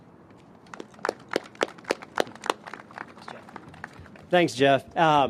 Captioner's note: applause